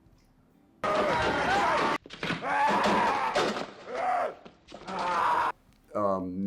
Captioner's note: zombie roaring